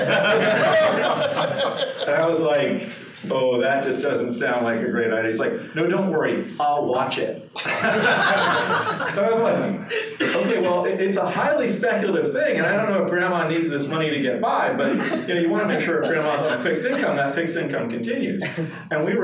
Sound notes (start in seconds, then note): 0.0 participants laughing; 7.5 participants laughing; 9.2 speaking amidst laughter